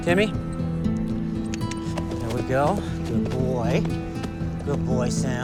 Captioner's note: clicks tongue